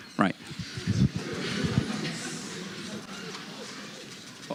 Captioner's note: laughter